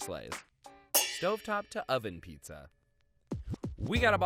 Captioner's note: metal clangs